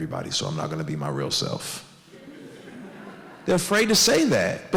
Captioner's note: audience laughs